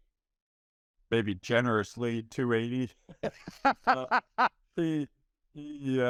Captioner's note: laughing